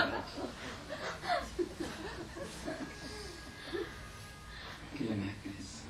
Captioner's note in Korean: 청중 웃음